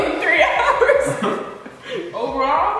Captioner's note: laughing